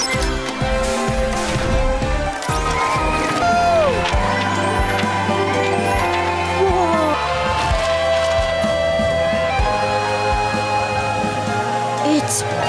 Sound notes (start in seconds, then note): 0.6 beep!; 2.5 cheering